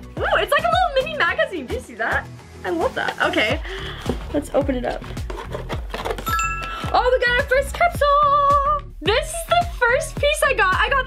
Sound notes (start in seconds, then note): 6.2 ding